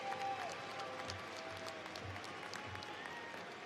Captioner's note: cheers and applause